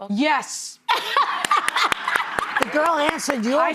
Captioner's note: laughing